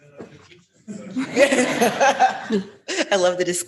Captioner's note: all laughing